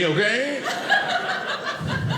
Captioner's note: audience laughing